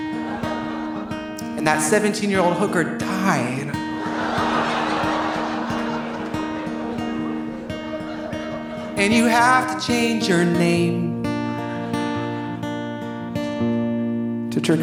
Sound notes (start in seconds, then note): 0.0 audience laughing; 3.8 audience laughing; 4.0 audience applauding; 11.4 audience laughing